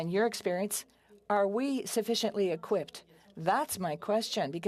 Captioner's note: speaking French